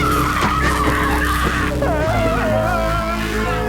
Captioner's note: whimpering